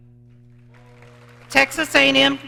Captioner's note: audience clapping